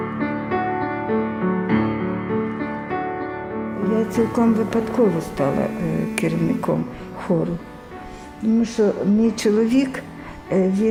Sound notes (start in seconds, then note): 4.6 speaking Ukrainian